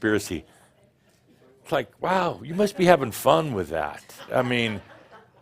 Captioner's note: a few chuckles